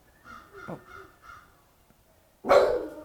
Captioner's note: crow caws outside; dog barks loudly